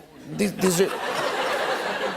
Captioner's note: laughter